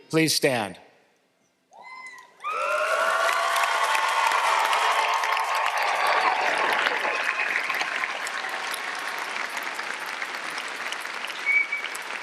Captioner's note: applause